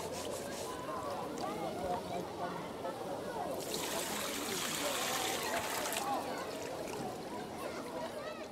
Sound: water and laughter fade

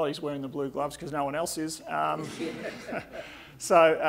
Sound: audience laughing

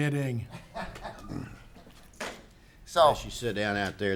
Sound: laughing

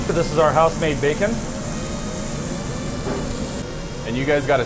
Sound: grill sizzling

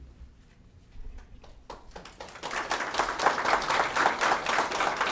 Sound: applause

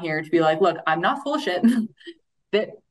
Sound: chuckles

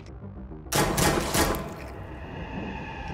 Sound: gunshots; supernatural riser

